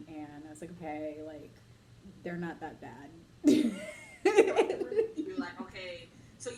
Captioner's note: laughs